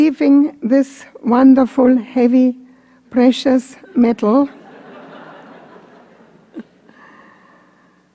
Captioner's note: laughter